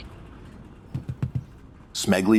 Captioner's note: stubbing out cigar